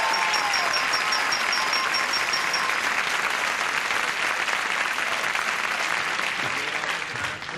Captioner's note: applause, cheering